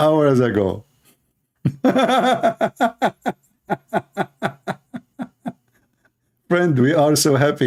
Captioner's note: Ketawa